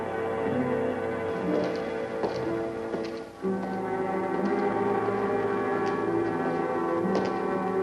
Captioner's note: ominous music; footsteps; ominous music